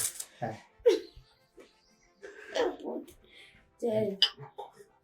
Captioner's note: laughing